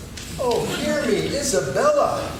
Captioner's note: laughing